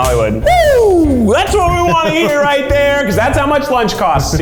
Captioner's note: cheers